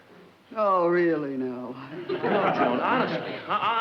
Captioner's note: audience laughs